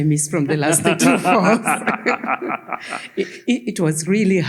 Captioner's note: all laughing